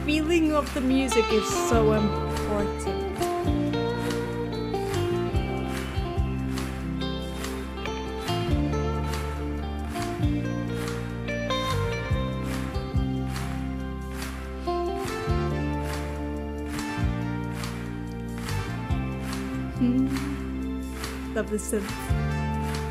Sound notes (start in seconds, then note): 0.0 smooth guitar music continues; 3.7 smooth guitar music continues; 6.7 audience clapping; 8.7 smooth guitar music continues